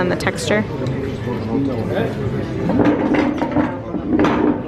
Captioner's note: crowd chatting